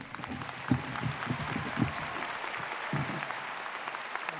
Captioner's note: audience applauds